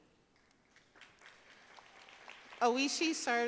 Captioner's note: audience applauding